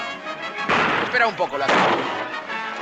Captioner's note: gunshots